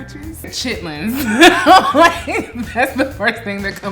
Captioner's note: laughing